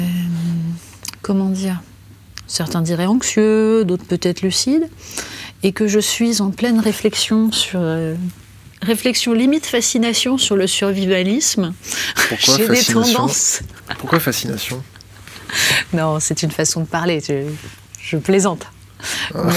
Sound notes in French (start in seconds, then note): 12.8 Rires